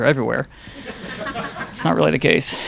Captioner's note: audience laughing